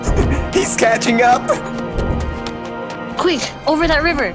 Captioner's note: clark's footsteps continue to drown out jeff's little pattering